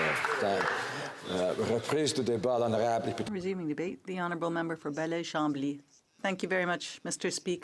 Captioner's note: applause